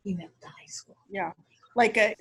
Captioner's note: faintly speaking